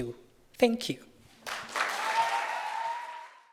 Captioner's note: audience cheering